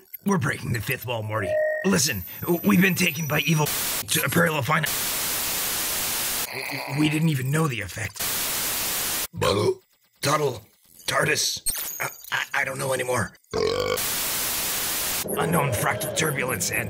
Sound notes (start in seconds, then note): 3.3 static; 8.0 static; 13.5 burp; 13.8 static